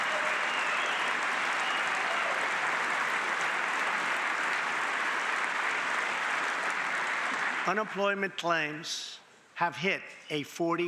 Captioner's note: cheering and applause